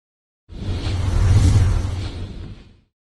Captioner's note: whoosh sound